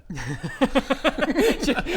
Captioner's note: harsh but fair giggles